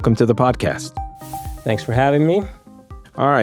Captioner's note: dramatic whooshing